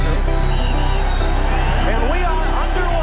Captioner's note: whistle